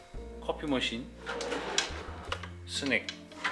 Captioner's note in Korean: 드르르륵